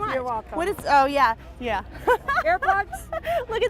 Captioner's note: laughs